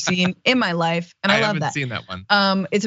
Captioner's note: laugh